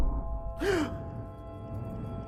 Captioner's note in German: keuch